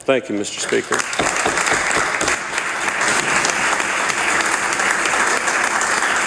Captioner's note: some Applause